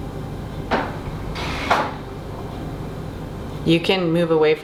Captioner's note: objects banging in the background